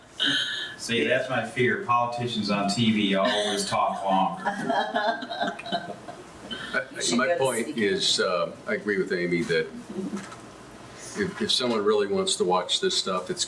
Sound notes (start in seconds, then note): 3.2 laughs